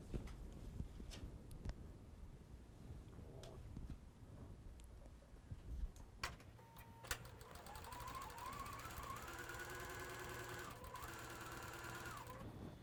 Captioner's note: sewing